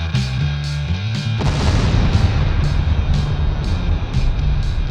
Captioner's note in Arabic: الانفجارات